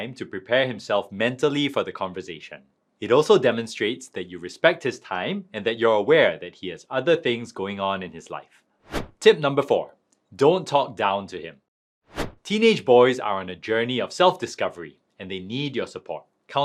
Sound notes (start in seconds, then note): 8.9 transition whooshing; 12.1 transition whooshing